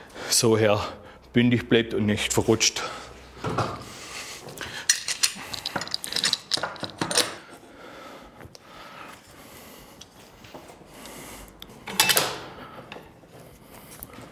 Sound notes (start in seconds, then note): 3.0 soft rattling; 7.2 concentrated breathing; 11.6 metallic rattling